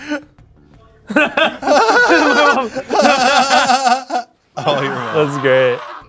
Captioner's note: laugh